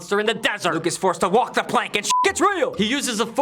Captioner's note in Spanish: pitido